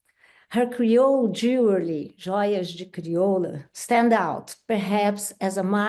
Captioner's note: speaks Portuguese